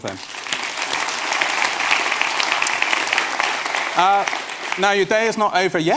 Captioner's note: applause